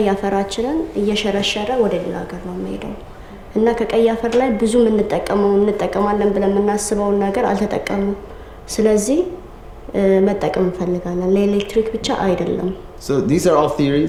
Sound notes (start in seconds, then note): 2.6 arabic 00:06:32